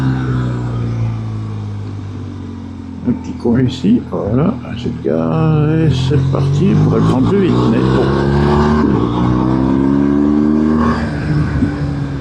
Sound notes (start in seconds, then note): 2.1 engine; 11.9 engine